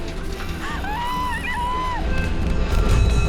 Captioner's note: woman screaming